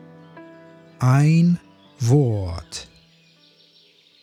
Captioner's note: german